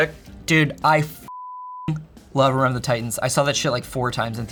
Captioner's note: beep